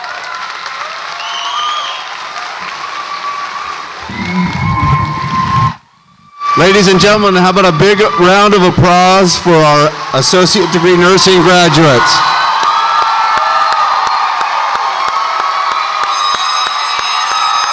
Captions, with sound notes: - Ladies and gentlemen, how about a big round of applause for our Associate Degree Nursing graduates? (audience applauds and cheers)